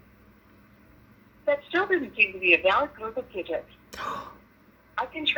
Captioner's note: gasp